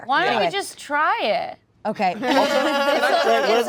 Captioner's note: laughter